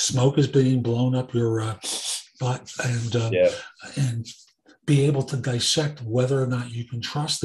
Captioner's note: sniff. sniff